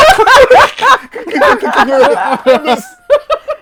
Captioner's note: laughter